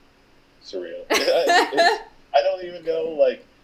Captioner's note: laughing